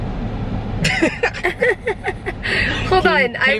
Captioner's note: both chuckling